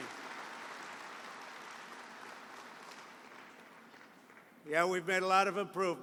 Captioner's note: applause